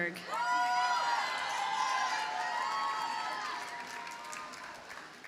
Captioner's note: audience cheers and applauds